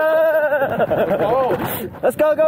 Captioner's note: even more cold sounds